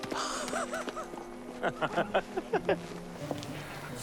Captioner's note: Lars laughing